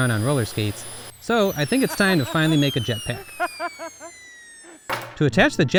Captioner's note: laughs